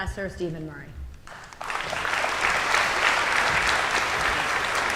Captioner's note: audience applauding